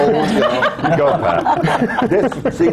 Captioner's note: laughter